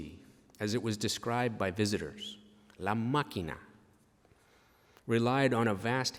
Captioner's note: spanish